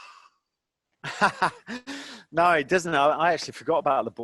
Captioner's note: laughing